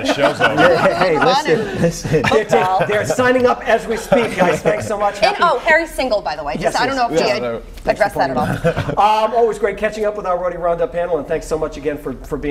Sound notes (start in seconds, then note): 8.3 laughter